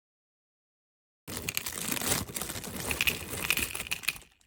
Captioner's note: hearts rattle